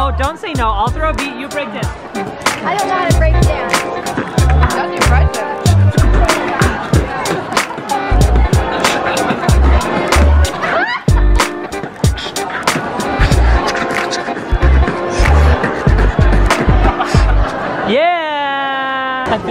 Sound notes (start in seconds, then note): 4.3 upbeat music; 11.0 laughs